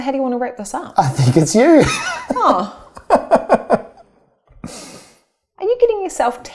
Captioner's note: laughs